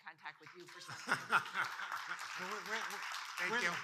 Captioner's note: audience applauding